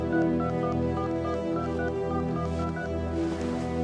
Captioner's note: phone dial beeping